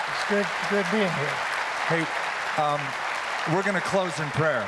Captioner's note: applause